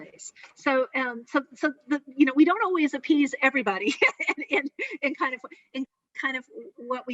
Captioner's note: laughing